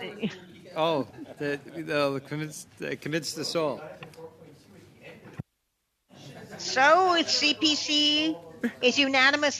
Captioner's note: laughter